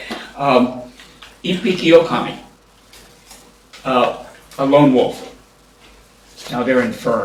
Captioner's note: japanese